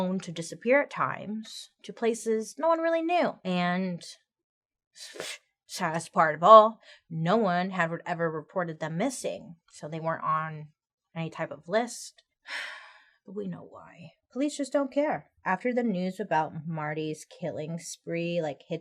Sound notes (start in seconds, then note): 12.7 sighs